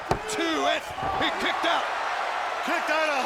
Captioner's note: audience cheering